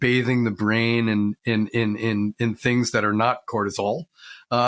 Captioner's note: laughs